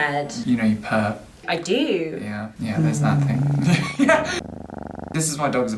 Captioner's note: purring